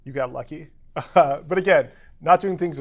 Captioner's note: laugh